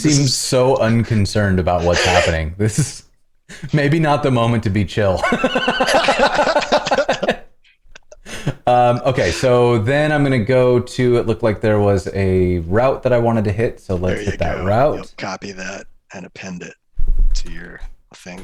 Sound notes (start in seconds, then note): 5.1 laughter